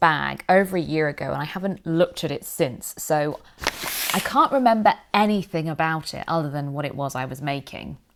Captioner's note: rustling